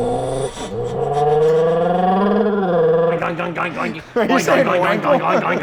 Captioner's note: man blowing through the exhaust pipe